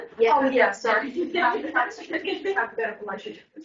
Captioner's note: laughs